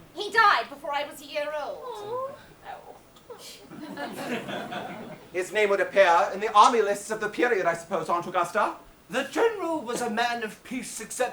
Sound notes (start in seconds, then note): 3.6 audience laughs